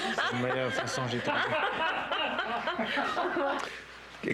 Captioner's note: rires